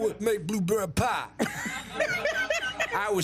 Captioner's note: laughs